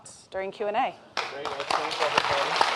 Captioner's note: applause